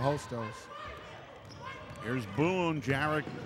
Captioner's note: ball pounding; yelling